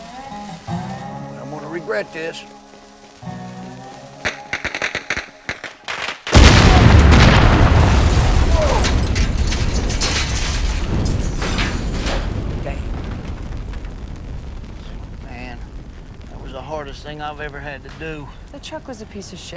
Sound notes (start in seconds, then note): 3.9 popping